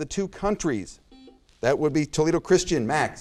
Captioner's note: buzzer noise